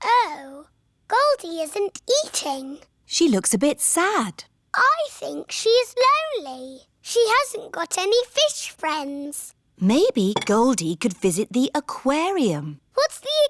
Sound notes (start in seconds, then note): none